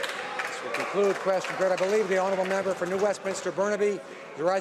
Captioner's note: some Applause